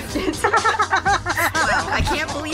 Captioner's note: chorus of laughter